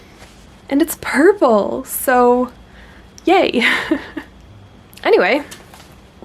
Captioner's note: laughs